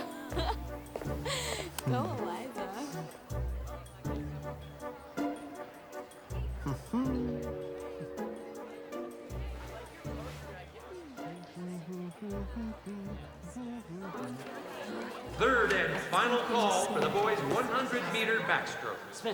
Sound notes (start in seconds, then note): 0.0 laughs; 3.9 whimsical music; 8.8 curious music; 12.0 Spencer humming